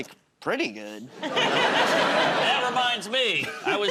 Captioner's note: laughter